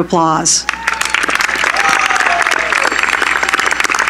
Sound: cheering

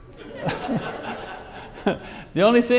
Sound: audience laughs

